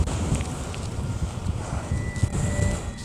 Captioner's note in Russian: одышка